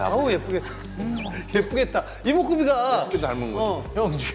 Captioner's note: laughing